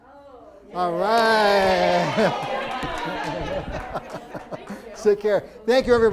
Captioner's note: cheering